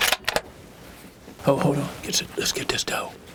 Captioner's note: whispering